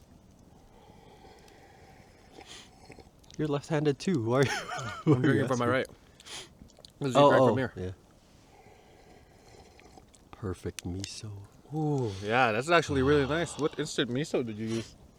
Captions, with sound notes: *slurps* "You're left-handed too, why are you asking?" *laughs* "I'm drinking from my right" "'Cus you drank from here" "Oh, oh yeah" *slurps* "Perfect miso" "Ohh yeah, this is actually really nice. What instant miso did you use"